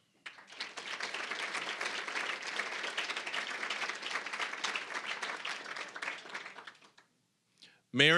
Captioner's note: applause